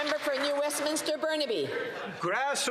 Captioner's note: some Applause